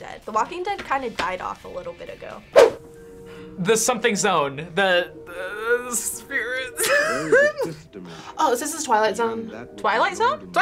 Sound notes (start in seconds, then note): 6.8 laughs